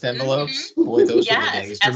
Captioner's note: laughing